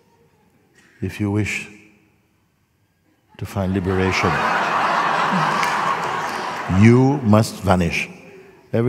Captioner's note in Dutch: gelach